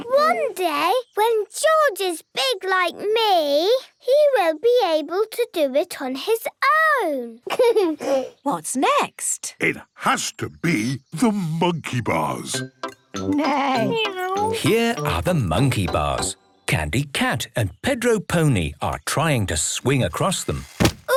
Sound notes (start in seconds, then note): 0.0 laughs; 7.4 giggles